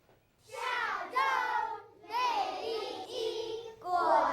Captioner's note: speaking chinese